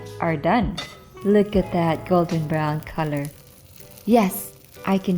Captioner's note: sizzling